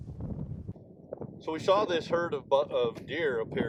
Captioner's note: wind rumbles